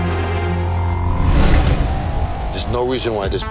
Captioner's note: dramatic music; pensive music; air whooshing